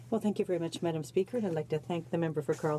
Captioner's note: speaking in french